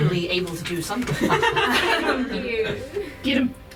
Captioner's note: laughter